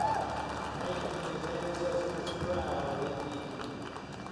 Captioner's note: cheers and applause